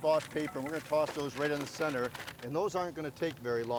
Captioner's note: paper crinkling